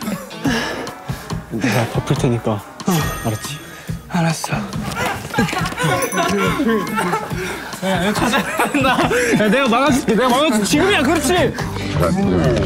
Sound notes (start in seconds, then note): 0.1 tired; 0.4 hard breath